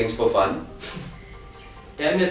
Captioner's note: chuckles